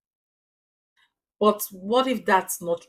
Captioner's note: paause